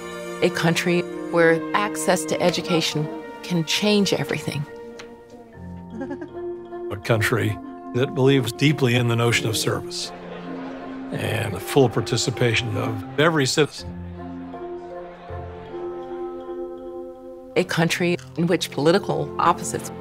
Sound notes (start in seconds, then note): 5.8 woman chuckles